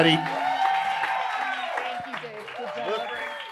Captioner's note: audience whoops and cheers